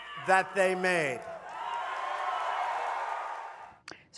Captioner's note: cheering and applause